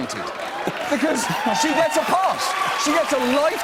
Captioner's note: cheers and applause; laughter